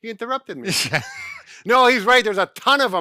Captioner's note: laughing